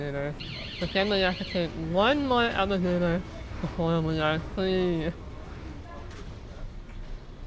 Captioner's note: emergency door alarm goes off